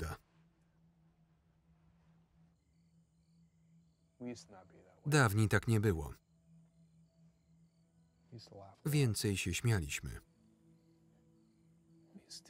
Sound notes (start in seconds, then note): 0.1 gentle music; 2.6 crickets chirping; 5.5 crickets chirping